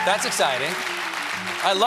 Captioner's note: cheers and applause; piano riff